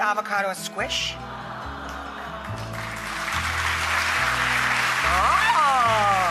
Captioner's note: crowd gasps; crowd applauds